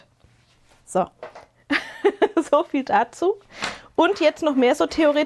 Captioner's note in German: gelächter